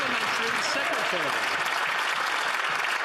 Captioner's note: some Applause